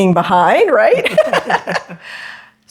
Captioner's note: laughter